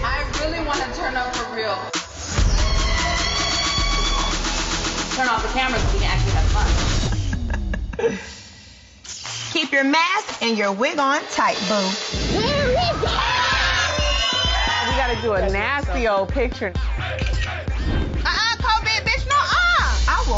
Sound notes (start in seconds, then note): 2.4 screams; 4.0 upbeat music; 12.4 screams